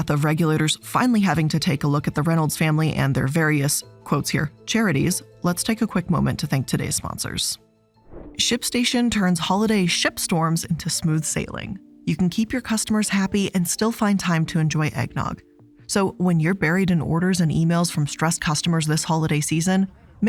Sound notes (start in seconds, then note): 8.0 air whooshes